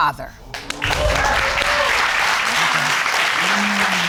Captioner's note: audience cheering